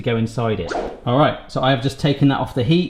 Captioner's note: whoosh